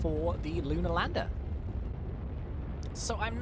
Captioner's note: rocket engine roaring